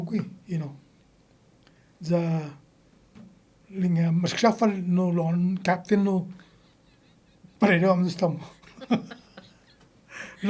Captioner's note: laughing